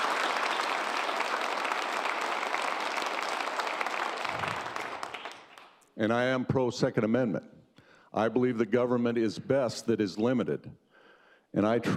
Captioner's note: cheers and applause